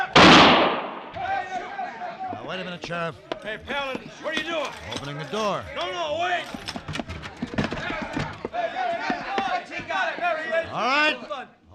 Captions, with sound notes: [gunshot] [chatter] Now wait a minute, Sheriff. Hey, paladin, what are you doing? Opening the door. No, no, wait! [chatter] All right.